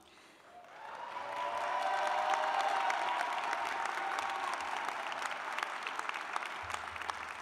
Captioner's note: cheers and applause